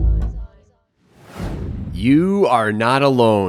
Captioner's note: footage whooshing